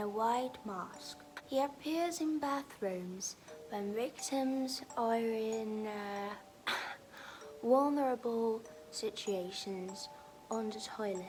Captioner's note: ahem